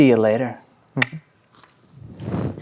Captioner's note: clicks tongue